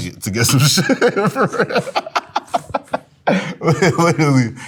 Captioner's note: laughs